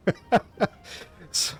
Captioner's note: laughter